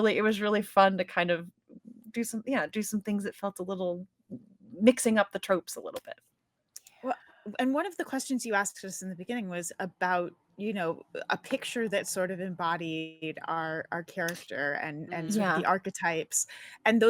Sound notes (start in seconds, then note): none